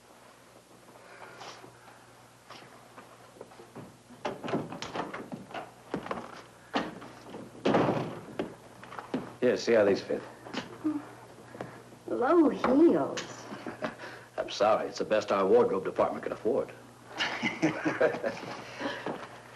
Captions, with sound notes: (door opens) (door shuts) - Here, see how these fit. - Low heels? - I'm sorry, it's the best our wardrobe department could afford. (men chuckle)